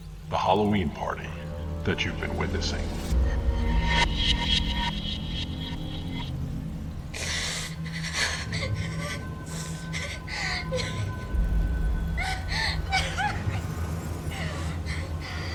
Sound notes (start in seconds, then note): 3.7 eerie transition sound; 7.2 sound of woman crying hysterically